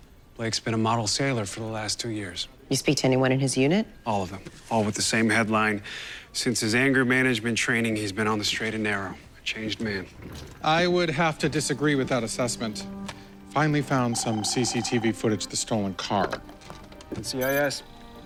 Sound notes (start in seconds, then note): 16.4 phone ringing